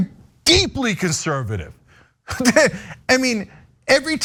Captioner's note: laugh